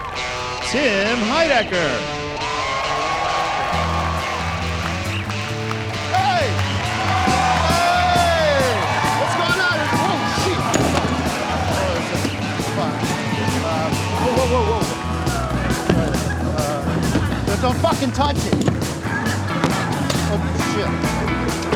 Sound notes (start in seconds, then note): 2.2 cheering and applause; 7.3 loud cheering